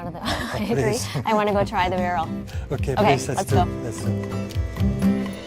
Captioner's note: laughing